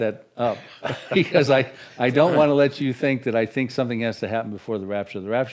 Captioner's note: chuckles